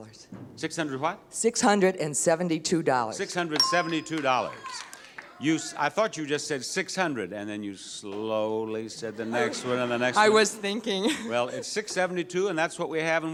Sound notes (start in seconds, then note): 3.5 counter beeps; 4.3 audience chatters; 9.0 audience chuckles; 9.0 chuckles